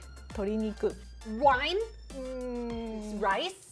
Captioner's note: speaking Japanese; disapproving noises